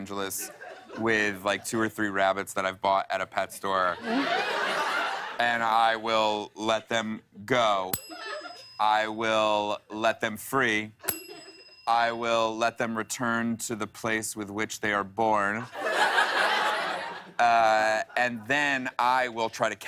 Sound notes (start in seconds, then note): 3.9 laughter; 7.9 ding; 11.0 ding; 15.6 laughter